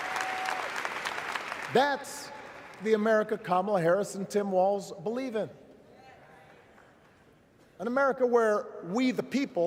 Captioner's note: cheers; applause